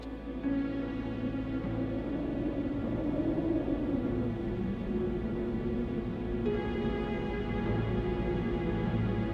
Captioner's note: howling winds